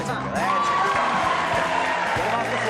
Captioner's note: applause